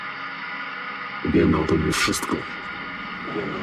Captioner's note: distorted male voice